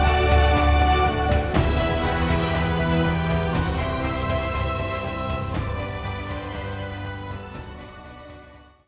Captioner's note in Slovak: Potlesk